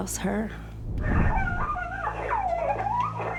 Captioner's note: screaming